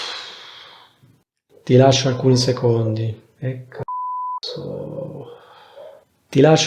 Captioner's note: beep